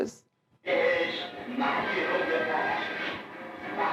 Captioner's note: non-english speech